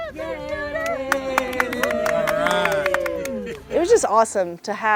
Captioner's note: cheers and applause